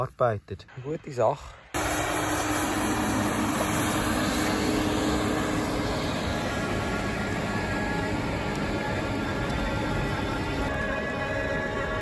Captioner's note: engine noise